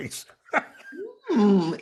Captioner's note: laughing